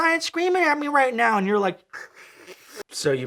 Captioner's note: slurping